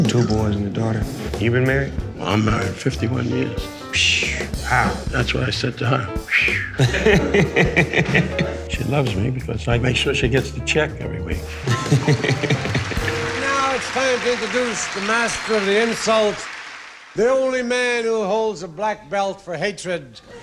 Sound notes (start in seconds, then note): 6.3 laughing; 11.4 laughing; 20.2 laughing